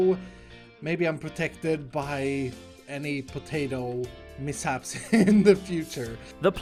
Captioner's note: laughs